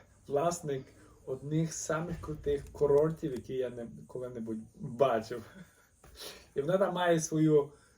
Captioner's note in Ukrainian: сміх